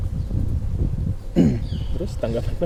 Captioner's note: coughs